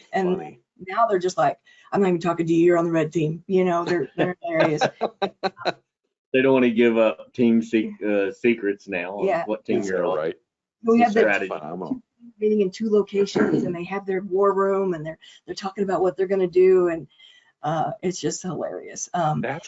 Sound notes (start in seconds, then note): 3.9 chuckling; 10.9 audio distortion